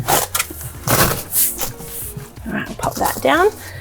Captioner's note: rustling